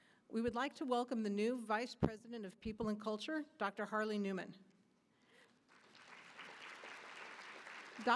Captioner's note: applause